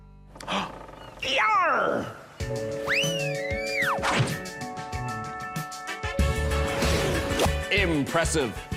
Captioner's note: gasps